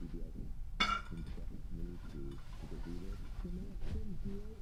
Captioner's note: bottle clanging